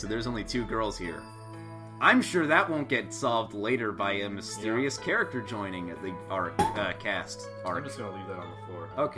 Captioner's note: water bottle falls again